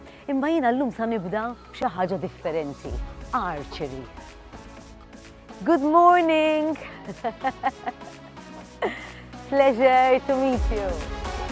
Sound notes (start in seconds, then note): 6.8 chuckles